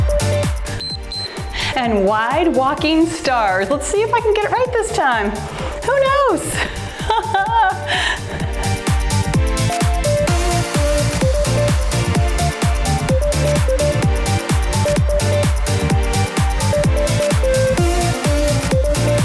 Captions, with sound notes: (timer beeps) And wide walking stars, let's see if I can get it right this time, who knows. (cheerful music)